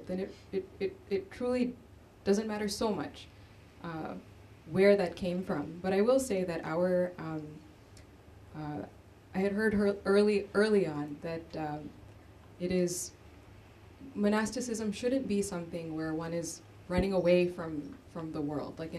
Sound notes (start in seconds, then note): none